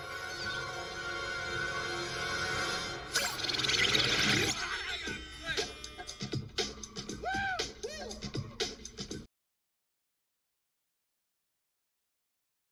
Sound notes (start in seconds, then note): 4.8 energetic music; 4.8 man yelping